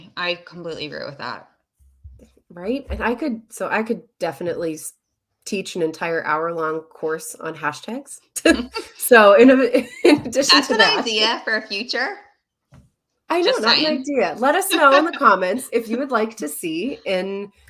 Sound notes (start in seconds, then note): 8.4 chuckle; 9.4 chuckles; 14.7 chuckles